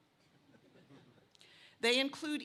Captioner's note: laughter